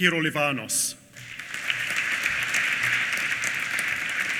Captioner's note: applause